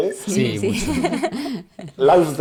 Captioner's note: laughs